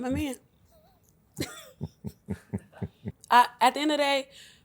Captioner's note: laughs